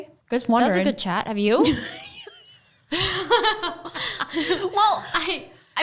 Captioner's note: both laughing